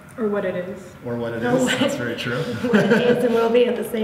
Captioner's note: laughs